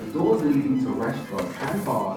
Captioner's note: voice Over PA